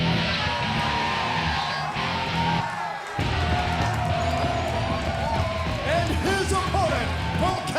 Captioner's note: crowd cheering